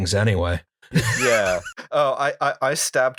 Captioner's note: laughter